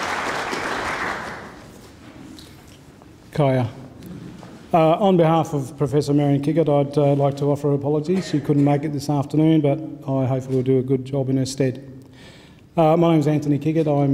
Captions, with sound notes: (speaks in foreign language) - On behalf of Professor Marion Kickett, I'd like to offer apologies who couldn't make it this afternoon, but I hope I will do a good job in her stead. My name is Anthony Kickett,